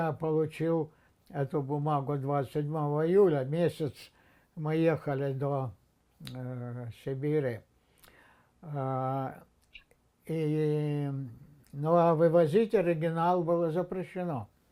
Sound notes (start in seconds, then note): none